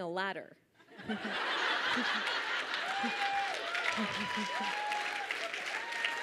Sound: audience laughs and cheers

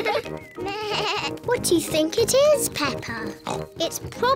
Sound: bleats; oinks

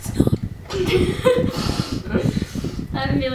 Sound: both laughing

